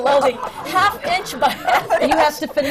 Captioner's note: laughter and groans